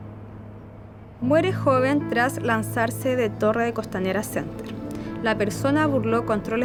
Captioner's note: speaking in foreign language